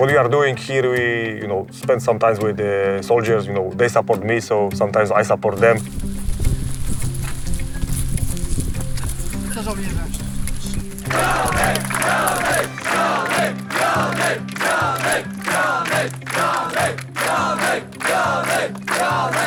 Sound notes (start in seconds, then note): 9.9 man speaking Polish; 11.6 clapping; 13.2 everyone chanting in unison